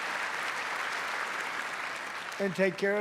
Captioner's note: applause